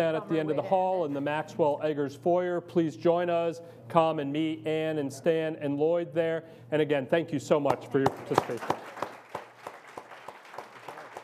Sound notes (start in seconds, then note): 8.1 audience applauds